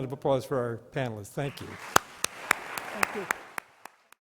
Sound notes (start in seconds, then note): 1.4 clapping